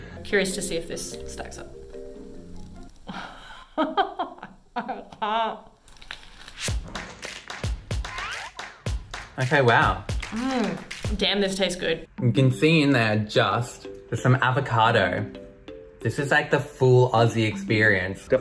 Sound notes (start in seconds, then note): 3.4 laughs; 6.7 upbeat music